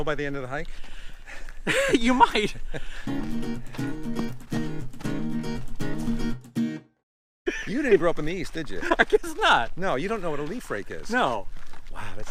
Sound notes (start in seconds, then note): 1.6 chuckles; 3.0 guitar music; 8.7 laughing